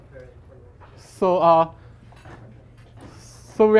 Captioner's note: none